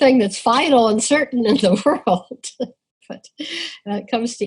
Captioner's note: laughs